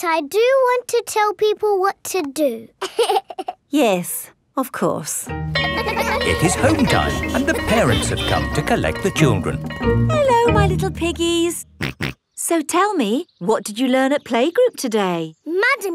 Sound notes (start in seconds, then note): 2.8 giggles; 5.5 school bell rings; 12.2 snorts